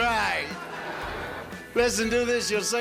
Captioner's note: audience laughs